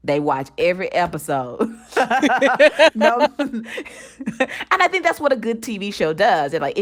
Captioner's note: laughter